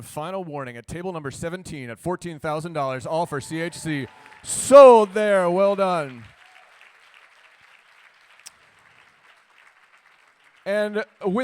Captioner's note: applause